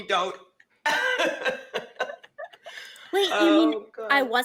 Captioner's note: women laughing